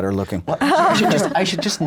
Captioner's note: everyone laughs